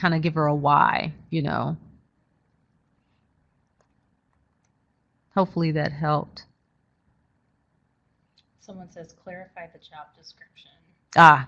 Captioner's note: silence